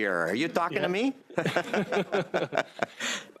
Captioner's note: chuckles